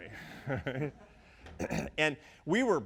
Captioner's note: audience laughs